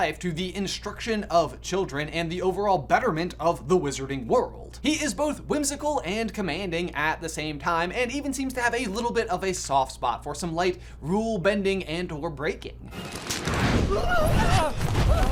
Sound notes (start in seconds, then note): 12.9 fire roaring; 13.4 hands clapping